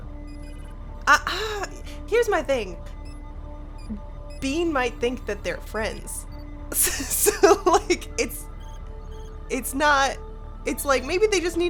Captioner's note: chuckles